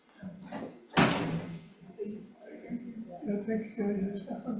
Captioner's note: members chattering